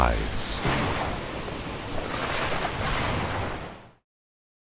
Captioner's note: thunder clapping